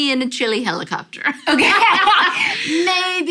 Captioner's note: laughter